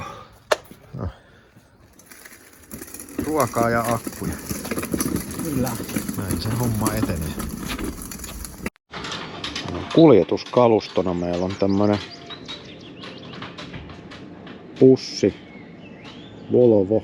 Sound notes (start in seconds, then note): 0.8 grunting and heavy breathing